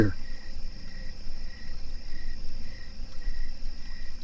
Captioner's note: crickets chirping